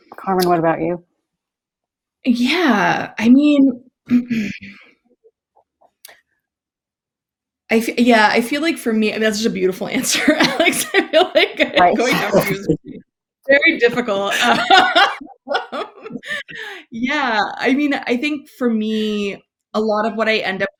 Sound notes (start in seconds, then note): 10.0 laughs